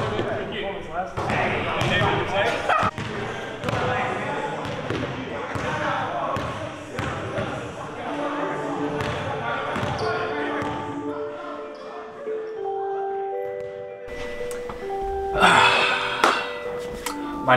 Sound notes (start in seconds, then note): 4.6 chatter